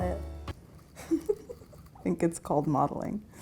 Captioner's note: laughing